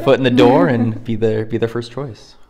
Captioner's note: laughs